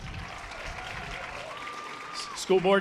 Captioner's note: audience applause